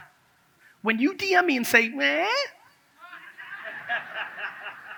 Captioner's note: imitates crying